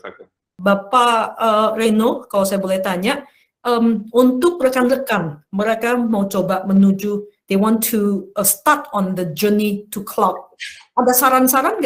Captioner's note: non-english speech